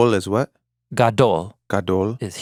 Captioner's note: speaking in Hebrew; both speaking in Hebrew